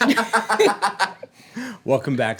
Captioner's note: laughter